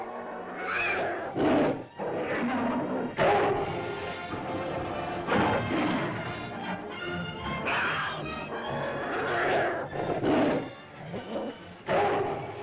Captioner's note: dinosaur growls; girl screams; suspenseful music; dinosaur growls & snarls